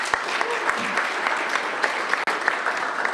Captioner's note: applause